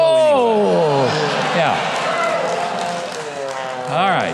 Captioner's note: audience clapping